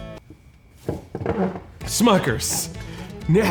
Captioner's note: stool squeaking